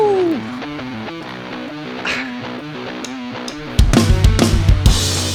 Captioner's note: laughs